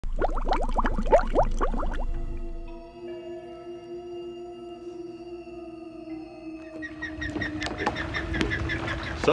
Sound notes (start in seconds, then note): 0.0 water bubbling; 3.0 eerie music; 6.5 birds calling